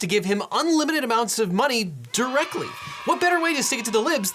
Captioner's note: cheering in background